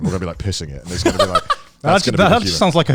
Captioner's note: laughs